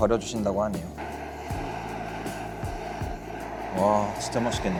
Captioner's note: ramen bubbling away nicely